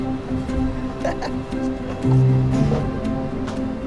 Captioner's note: laughs